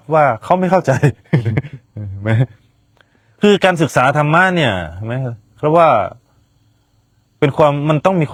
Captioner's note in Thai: เสียงหัวเราะ